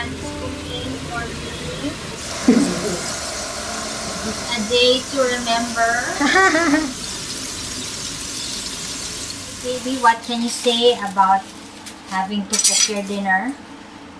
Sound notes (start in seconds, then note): 6.1 laughs; 7.2 meat sizzling